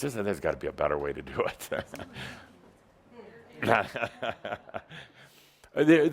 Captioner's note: Adamus chuckles